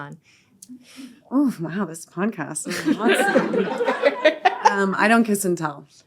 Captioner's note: all laughing